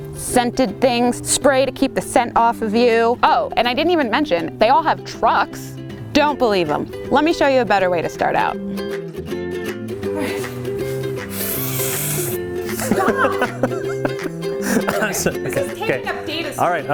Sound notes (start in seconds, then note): 11.6 loud slurping; 12.6 laughs